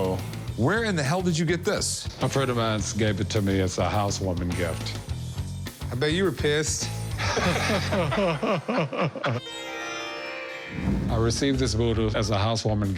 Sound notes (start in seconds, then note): 7.1 laughter